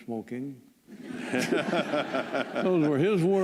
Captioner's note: laughter